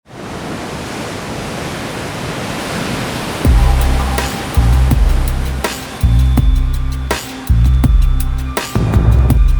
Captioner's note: sound of waves on shore